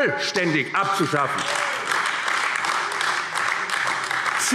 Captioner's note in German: Beifall AfD